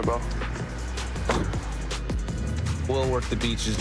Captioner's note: car door closes